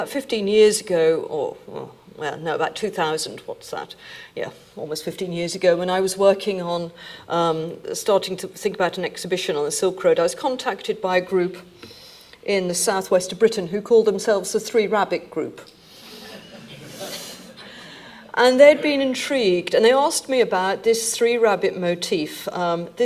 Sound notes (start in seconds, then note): 16.2 audience laughing